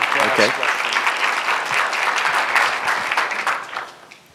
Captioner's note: applause continues